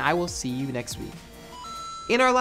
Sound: arcade noise

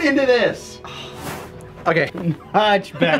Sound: exhales heavily

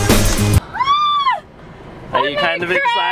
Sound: screaming

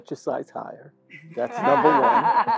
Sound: laugh

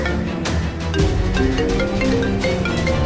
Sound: phone ringing

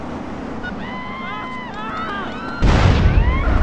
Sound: low quality funny screams

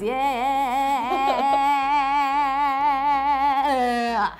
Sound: laughing

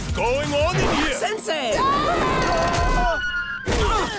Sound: screaming

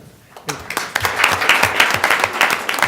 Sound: applause

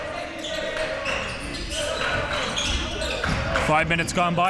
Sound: crowd cheering

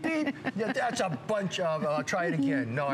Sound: laughter

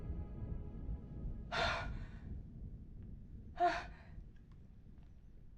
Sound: Ashley catches her breath

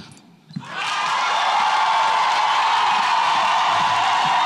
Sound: audience cheers

